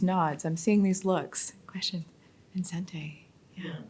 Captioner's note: speaks faintly